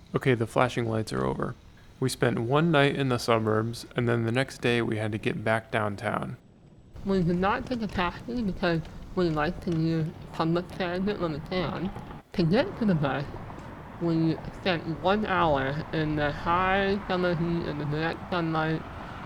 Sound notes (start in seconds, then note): 12.5 cars whooshing